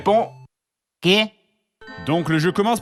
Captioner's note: Spanish accent